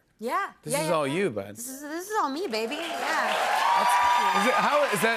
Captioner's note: cheers and applause